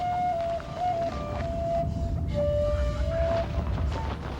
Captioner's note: thunder rolling